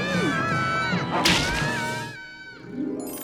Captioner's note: all screaming; dreamy harp; worm chomps; Max screaming; dreamy harp